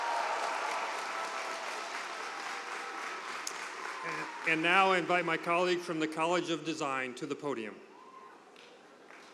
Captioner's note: cheers and applause